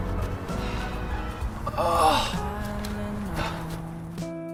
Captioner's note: sigh